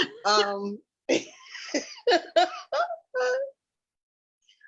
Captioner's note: laughing